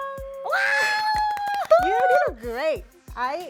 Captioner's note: applause